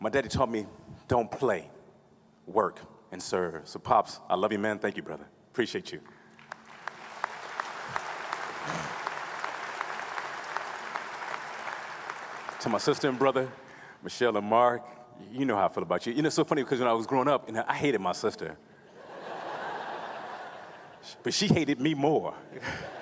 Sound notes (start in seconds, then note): 6.1 applause